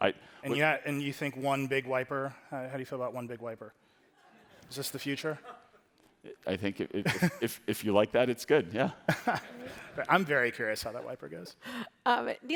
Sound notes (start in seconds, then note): 4.1 attendees laughing; 7.0 laughing; 9.1 everybody laughing